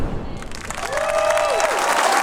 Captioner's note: audience cheering; audience applauding